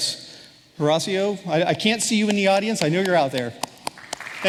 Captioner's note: applause